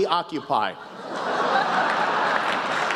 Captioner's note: laughter